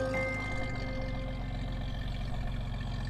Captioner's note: engine running